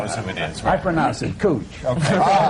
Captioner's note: laughter